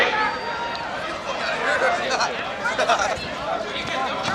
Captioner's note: crowd talking